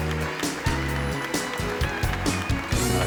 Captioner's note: clapping